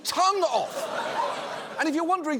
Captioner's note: audience laughs